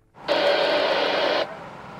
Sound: radio static

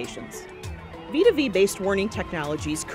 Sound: emergency sirens

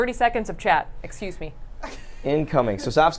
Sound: laughs

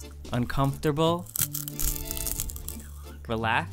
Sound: popcorn crunching

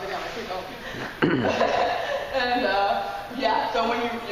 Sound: laughing

